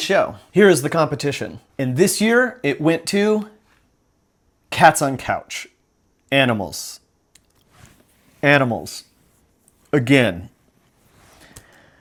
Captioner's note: big sigh